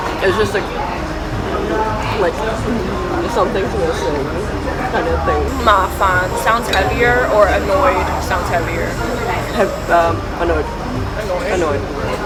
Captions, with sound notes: It's just like... something's missing. Kind of thing. 'Ma fan' [annoyed in Canto] sounds heavier or 'annoyed' [in English] sounds heavier? 'Annoyed.'